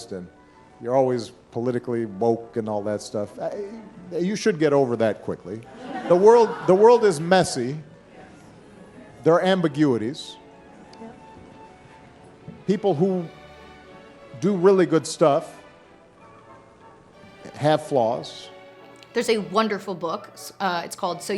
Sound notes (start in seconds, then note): 5.7 audience laughing